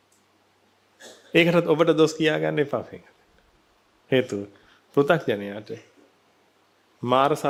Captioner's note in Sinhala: උගුර කෑරීම